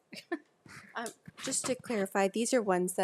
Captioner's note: laughs